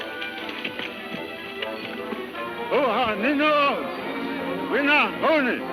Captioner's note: speaking in foreign language